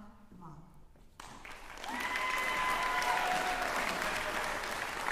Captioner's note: cheering